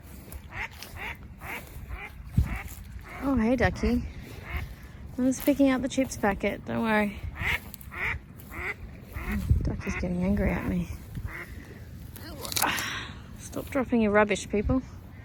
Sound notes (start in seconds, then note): 0.2 duck starts to quack; 7.8 duck quacks angrily and louder; 12.3 grunts while bending down